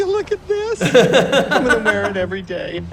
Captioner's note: hosts laugh